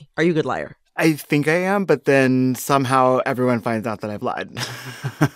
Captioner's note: laughter